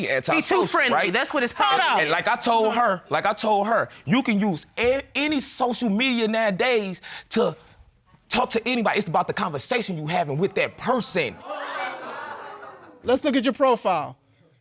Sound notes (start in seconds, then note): 11.4 audience exclaims